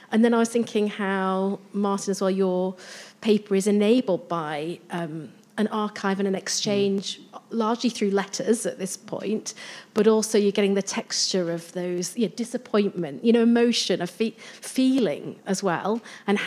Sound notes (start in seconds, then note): none